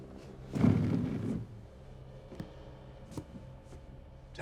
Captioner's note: chair sliding